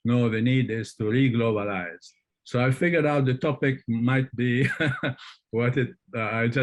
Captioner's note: laughs